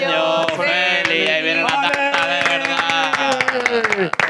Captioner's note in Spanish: aplauden